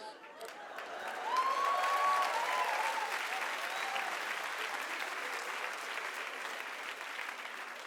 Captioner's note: audience cheers and claps